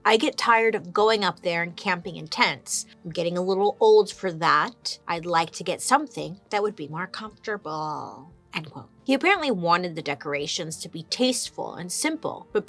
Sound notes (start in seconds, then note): none